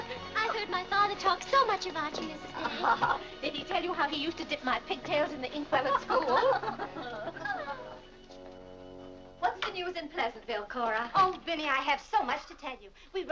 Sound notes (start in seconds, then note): 5.8 women laughing